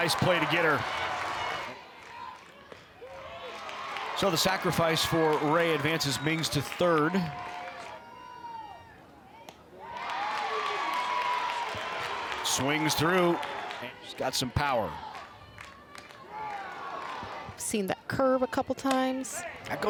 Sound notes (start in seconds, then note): 9.7 crowd cheers